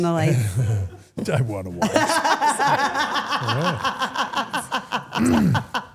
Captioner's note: everyone laughs